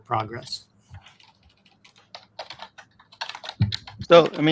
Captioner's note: keycaps clacking